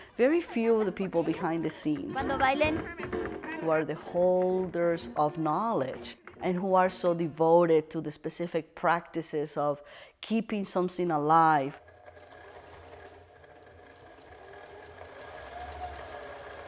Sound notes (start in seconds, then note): 2.6 foreign language; 10.8 machine turning and light pounding